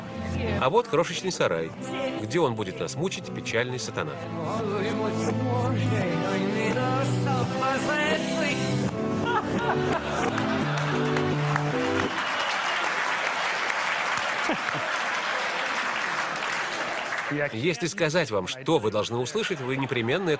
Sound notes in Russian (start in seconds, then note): 9.0 Смех в зале; 10.0 Аплодисменты; 18.7 Смех в зале